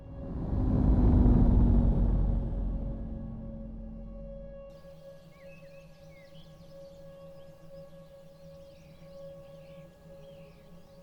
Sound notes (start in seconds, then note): 0.0 atmospheric music; 0.0 engines rumbling; 5.1 birds chirping